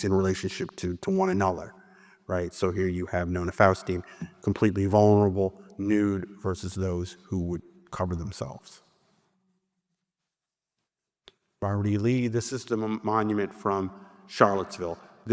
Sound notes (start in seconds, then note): none